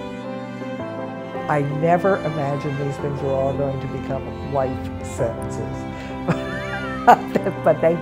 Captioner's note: laughs